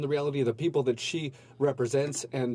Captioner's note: speaking french